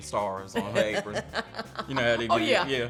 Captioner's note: laughs